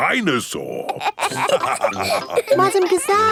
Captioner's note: all laughing